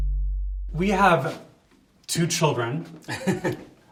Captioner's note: upbeat music; laughs